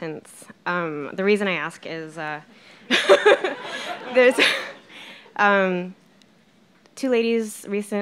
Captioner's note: laughing